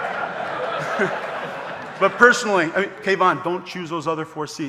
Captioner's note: laughs